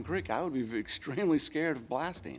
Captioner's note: none